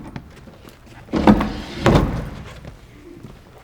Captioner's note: drawer opens; drawer shuts